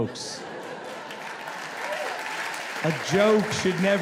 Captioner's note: audience claps